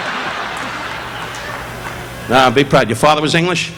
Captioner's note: audience laughing